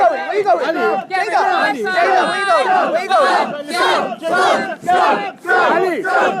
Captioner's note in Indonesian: Crowd chants